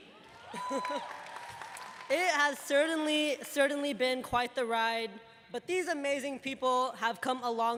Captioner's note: cheers and applause